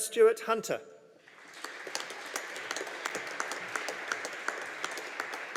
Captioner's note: audience applauding